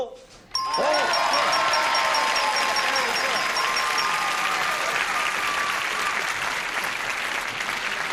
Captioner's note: dinging, applause, cheering